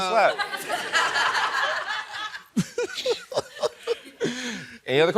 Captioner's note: laughing